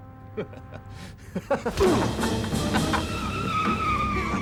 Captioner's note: laughs; dramatic music; tires squeal